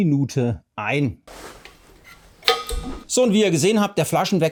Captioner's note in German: Hebel wird umgelegt / Gas strömt ein